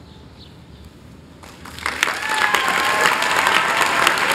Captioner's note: applause